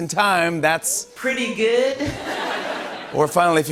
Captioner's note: laughter